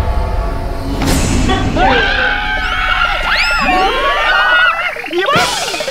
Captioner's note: Screaming